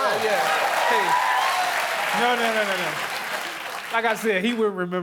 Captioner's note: applause